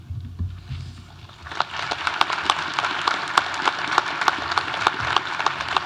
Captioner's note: audience applauding